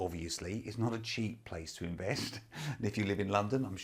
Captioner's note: laughs